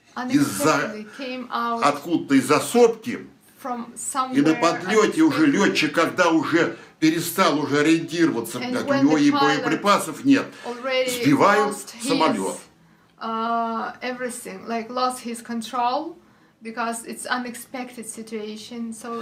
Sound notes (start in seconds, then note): 3.9 foreign language